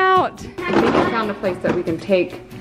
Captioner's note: toys falling